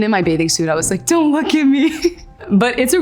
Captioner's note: giggles